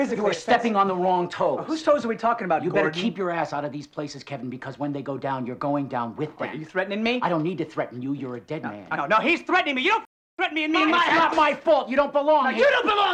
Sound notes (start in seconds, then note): none